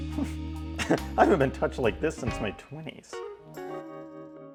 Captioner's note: sexy music; laughs